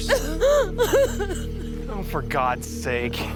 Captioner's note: crying